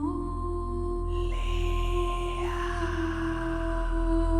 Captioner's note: scary whisper